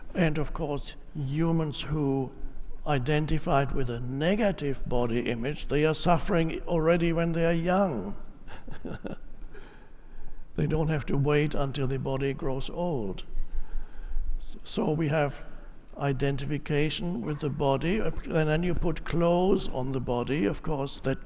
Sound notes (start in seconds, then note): 8.4 laughs